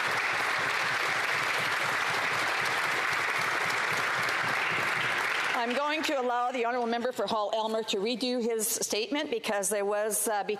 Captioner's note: some Applause